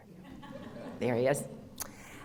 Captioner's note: audience laughter